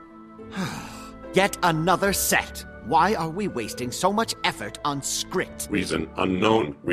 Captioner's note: sigh